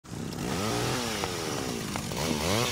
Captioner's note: chainsaw revs